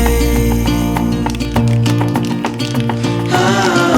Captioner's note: paint can shakes